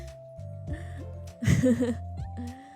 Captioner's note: laughs